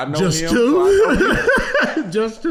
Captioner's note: laughing